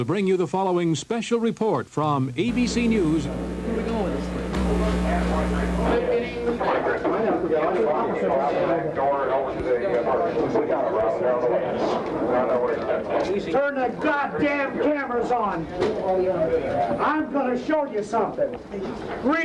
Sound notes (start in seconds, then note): 4.9 crowd chattering; 6.2 police radio chattering